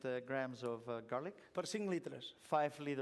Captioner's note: non-english speech